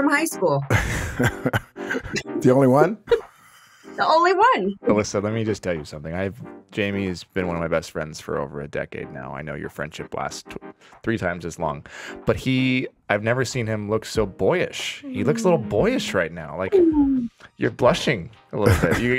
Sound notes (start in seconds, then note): 0.7 laughs; 4.6 laughs